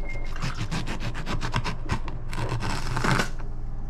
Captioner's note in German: Messer klappert